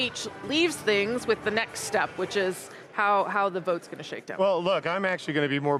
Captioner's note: none